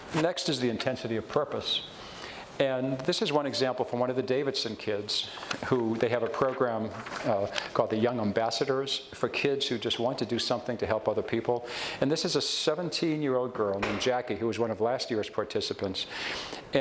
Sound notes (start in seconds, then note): none